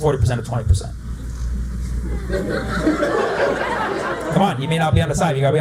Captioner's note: laughter